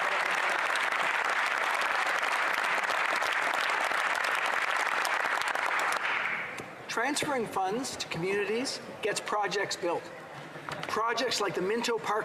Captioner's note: applause